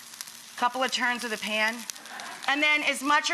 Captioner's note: audience laughs